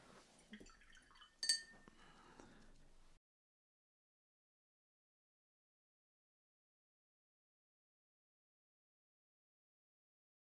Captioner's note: silence